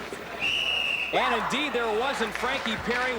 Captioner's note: whihihiststlele blowiw